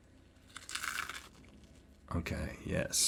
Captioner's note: food crunching